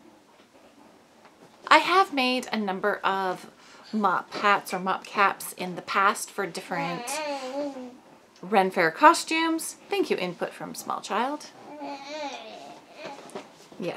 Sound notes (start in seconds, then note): 11.6 more baby noises; 11.6 baby cooing